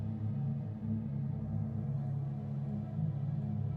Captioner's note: none